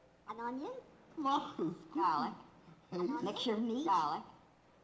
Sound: foreign language spoken in various pitches

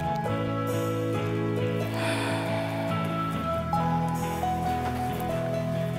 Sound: sighing

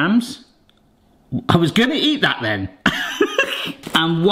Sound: laughs

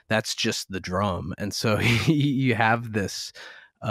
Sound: laughter

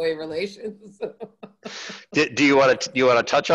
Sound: laughs

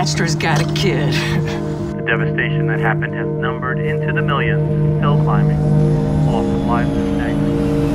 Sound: radio voice

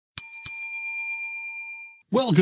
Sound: bell dings

